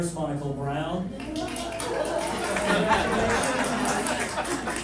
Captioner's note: clapping